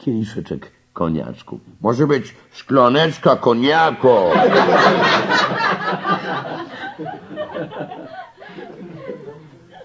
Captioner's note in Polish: śmiech